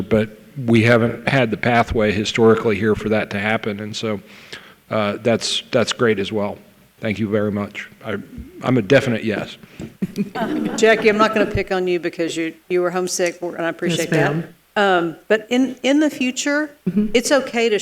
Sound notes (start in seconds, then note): 10.0 laughs